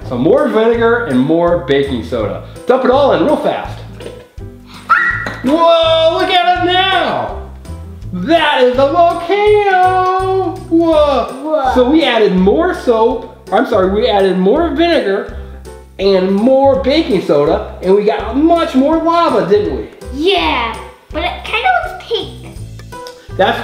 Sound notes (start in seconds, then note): 4.8 screams